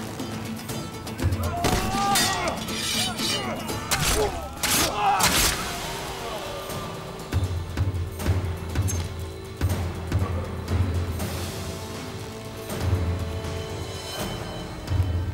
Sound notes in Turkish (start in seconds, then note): 1.2 Savaş sesleri; 7.1 Davul sesi